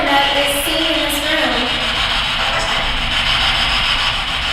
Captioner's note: static buzzing